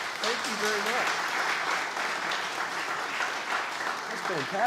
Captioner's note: audience applauds